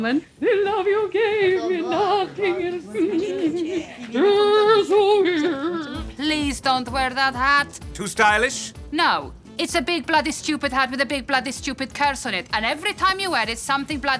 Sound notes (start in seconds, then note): 0.2 singing; 5.3 drunk vocalizing